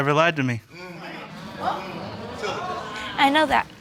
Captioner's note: audience mumbling